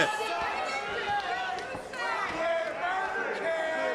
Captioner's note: crowd yells